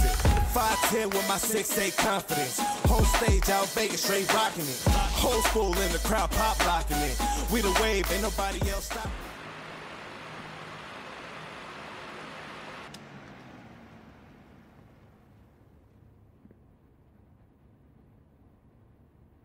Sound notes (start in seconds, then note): 9.8 fan humming; 12.9 switch clicks